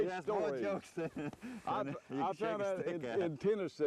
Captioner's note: laughter